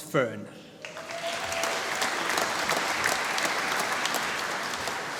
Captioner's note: applause